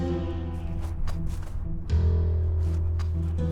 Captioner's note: wind whistling